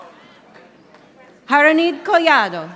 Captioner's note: audience applauding